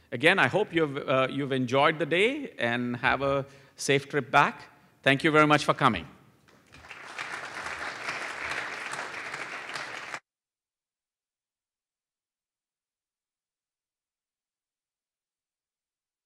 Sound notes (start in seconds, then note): 6.5 applause